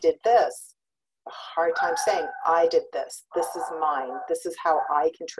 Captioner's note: dog barking in background